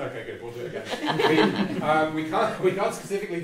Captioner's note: all laugh